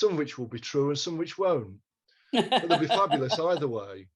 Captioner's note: laughter